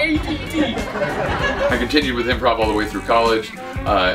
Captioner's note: laughter